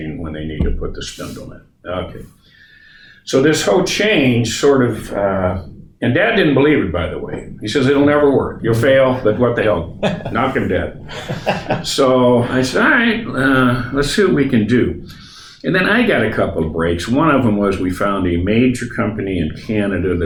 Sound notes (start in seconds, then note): 10.8 laughing